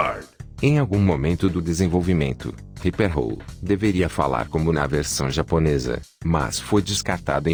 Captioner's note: Ripper Roo speaking